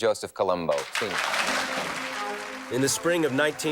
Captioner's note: audience applauding